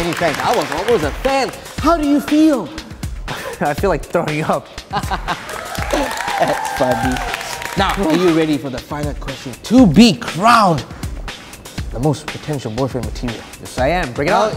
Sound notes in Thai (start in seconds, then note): 5.4 เสียงเฮ